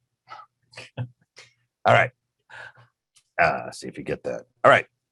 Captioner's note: chuckling